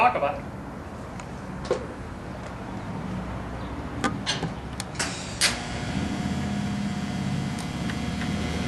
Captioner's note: welding